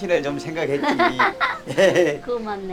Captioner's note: both laughing